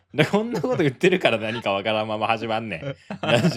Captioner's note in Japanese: 笑い